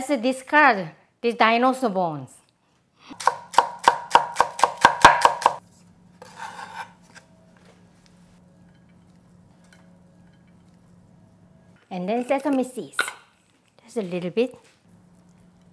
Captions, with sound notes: Let's discard these dinosaur bones. (chopping) And sesame seeds, just a little bit.